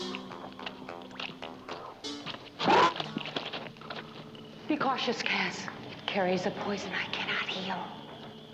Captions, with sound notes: (grunting) Be cautious, Kaz. It carries a poison I cannot heal.